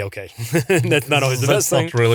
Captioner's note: laughs